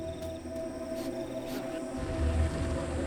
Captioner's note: lion sniffing